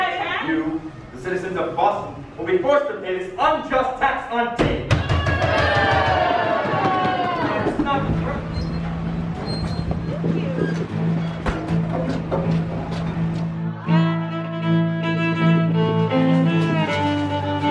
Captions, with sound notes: - You, the citizens of Boston, will be forced to pay unjust taxes on time. (crowd booing) (light jazz music plays)